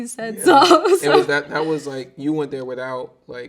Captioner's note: laughing